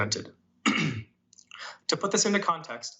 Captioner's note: coughing